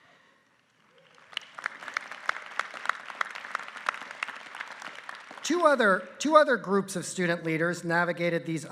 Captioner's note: applause